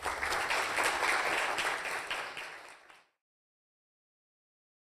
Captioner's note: applause